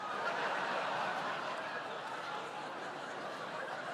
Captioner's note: laughter